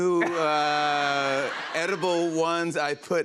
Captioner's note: laughter